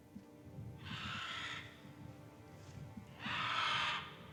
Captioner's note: vulture cawing